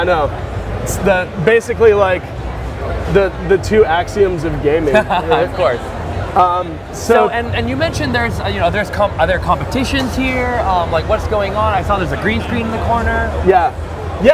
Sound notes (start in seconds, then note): 4.8 laughs